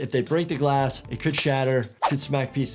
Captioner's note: glass shattering